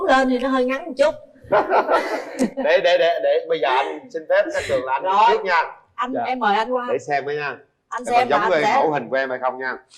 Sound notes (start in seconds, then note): 1.4 laughter